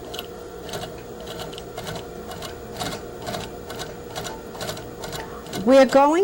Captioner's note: sound of sewing machine